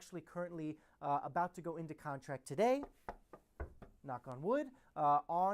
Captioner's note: knocking